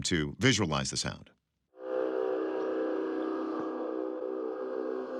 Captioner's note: horn-like sound